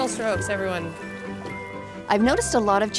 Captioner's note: water sloshing